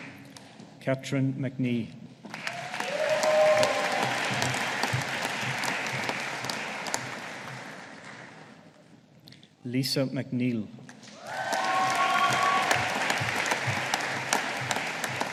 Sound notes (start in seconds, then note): 2.3 audience applauding; 11.1 audience applauding